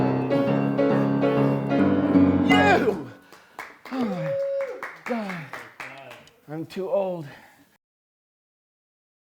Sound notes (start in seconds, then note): 0.0 piano outro; 2.5 people clapping